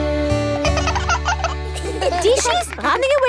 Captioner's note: both laugh